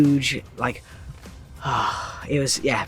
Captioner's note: sighs